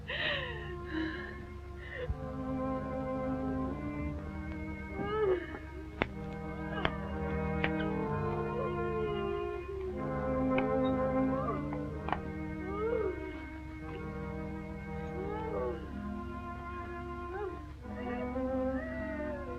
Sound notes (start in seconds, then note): 0.3 gentle music; 5.0 crying